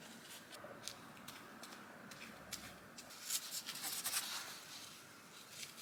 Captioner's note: light brush strokes and sticking noises